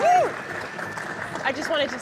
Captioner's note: cheers & applause